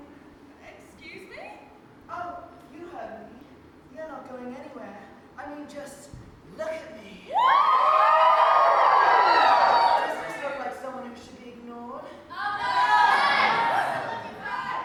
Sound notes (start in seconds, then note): 7.3 audience cheers loudly; 12.4 audience: noooo, I love you Fran